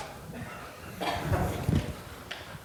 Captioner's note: laughter